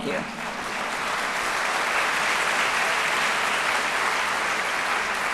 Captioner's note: applause